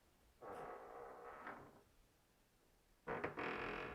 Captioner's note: door creaking